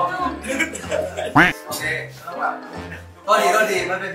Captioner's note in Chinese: 笑到流淚